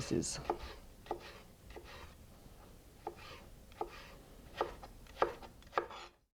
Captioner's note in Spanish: sonido cortando